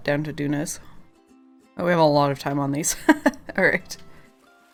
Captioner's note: laughs